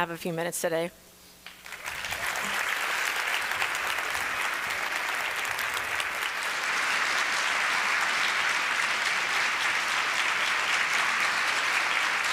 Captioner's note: applause